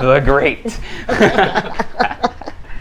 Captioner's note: laughs